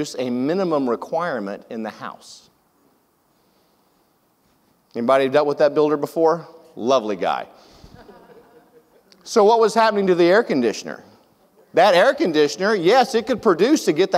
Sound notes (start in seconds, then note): 7.9 audience laughs